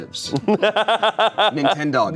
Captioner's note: laughs